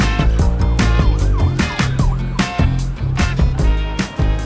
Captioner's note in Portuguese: sirene ao fundo